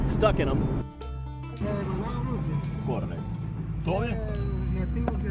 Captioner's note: speaking in Spanish